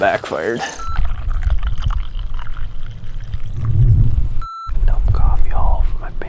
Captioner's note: coffee pouring